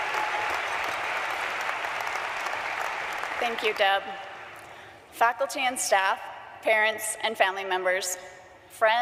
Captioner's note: applause